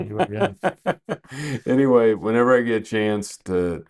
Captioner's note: laughing